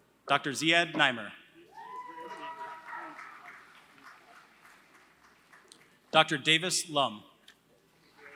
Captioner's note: applause; applause